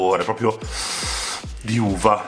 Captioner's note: suction noise